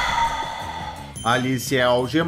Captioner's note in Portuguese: suspiro